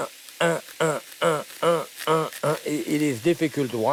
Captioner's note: grunting